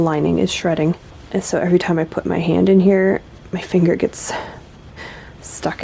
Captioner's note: laughs